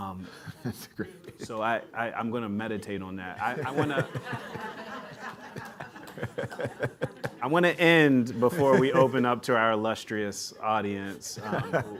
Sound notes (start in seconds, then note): 3.5 few audience chuckles